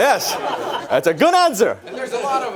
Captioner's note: audience laughs